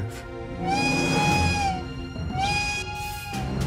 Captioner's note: red alert whistle